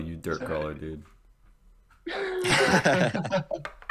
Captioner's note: laughter